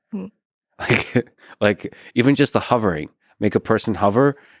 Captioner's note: chuckles